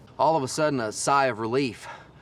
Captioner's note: exhales